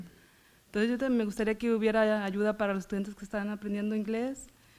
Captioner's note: foreign language